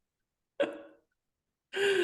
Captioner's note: laughter